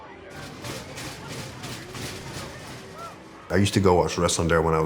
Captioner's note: crowd chattering; coaster chugging